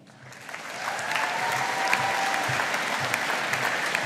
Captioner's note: audience applauding